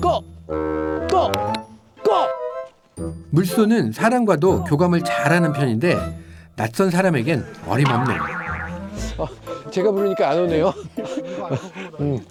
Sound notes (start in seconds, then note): 7.4 haha haha haha haha